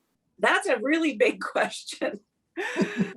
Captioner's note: laughing